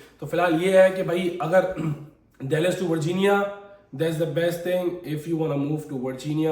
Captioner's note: sound of clearing throat